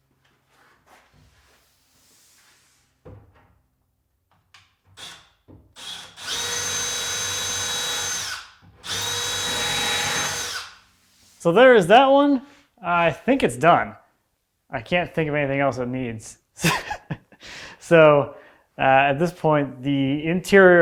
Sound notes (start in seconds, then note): 5.7 drill whirring; 16.6 laughing